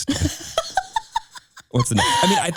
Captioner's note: laughing